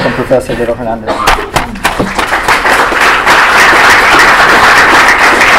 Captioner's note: applause